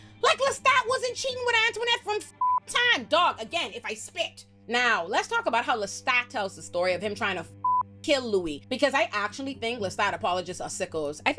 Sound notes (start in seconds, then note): 2.4 beep; 7.6 beep